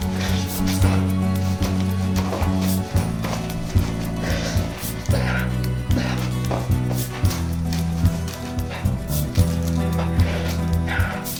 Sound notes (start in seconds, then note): 1.0 Manny grunting